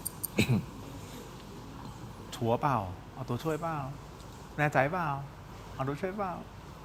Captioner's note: clears throat